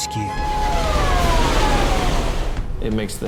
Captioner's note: siren blares